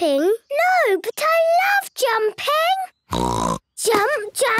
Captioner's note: snort